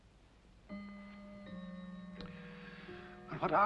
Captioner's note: chiming sound